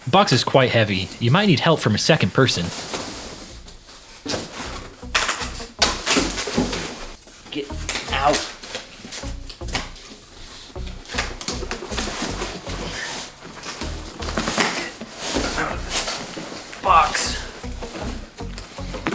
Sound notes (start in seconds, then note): 0.1 voice over; 5.3 annoying box noises; 9.6 sound of shelf parts refusing to slide out of box